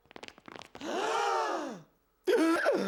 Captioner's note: gasping